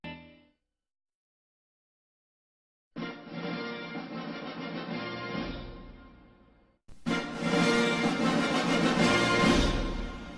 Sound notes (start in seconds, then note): 0.8 silence; 2.8 rousing fanfares resuming; 7.0 rousing fanfares continuing